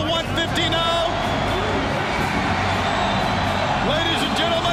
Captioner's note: crowd cheering continues